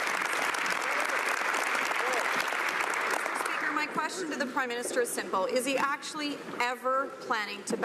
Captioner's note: some Applause